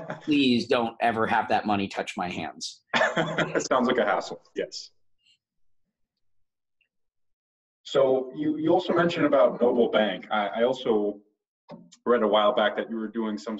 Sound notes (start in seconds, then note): 2.9 laughs